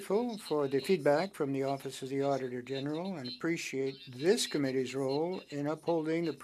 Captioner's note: speaking French